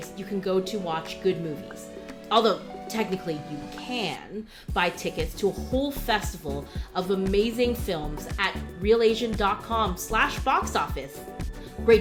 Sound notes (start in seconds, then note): none